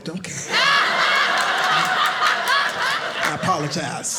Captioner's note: audience laughing